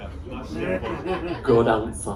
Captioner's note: laughter